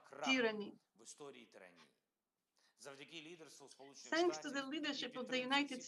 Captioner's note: Volodymyr speaking foreign language